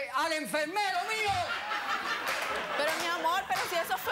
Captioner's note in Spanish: risas